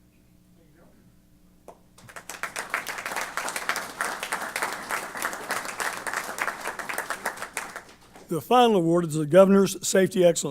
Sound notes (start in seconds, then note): 1.9 applause